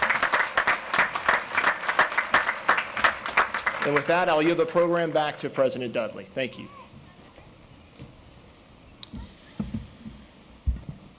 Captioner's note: applause